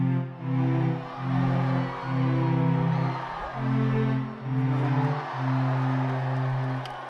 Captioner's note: crowd noise; applause